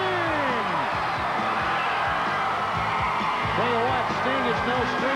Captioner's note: crowd cheering